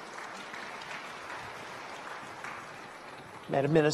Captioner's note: applause